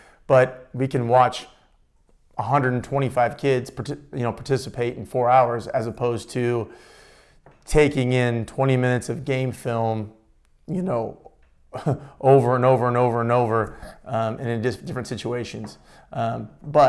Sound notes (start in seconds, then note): 11.7 chuckles